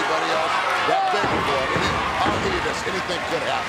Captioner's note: feet stomping